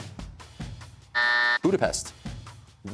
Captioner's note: buzzer sounds